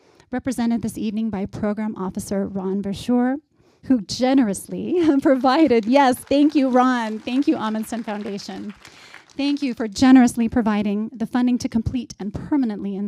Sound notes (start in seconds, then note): 5.1 applause